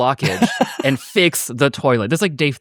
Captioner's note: laughing